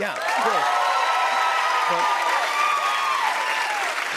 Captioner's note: cheers and applause